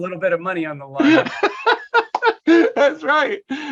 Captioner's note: laughter